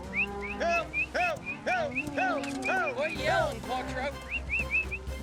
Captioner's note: mooing; yelling, whistling